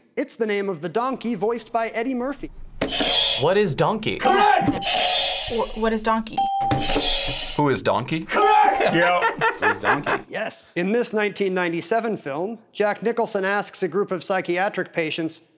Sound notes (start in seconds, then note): 4.3 buzzer rings; 6.3 bell rings; 6.4 buzzer rings